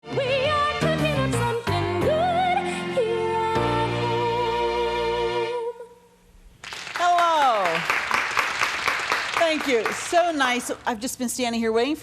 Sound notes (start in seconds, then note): 6.6 clapping